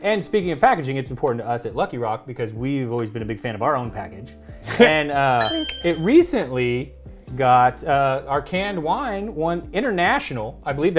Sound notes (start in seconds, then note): 5.4 ding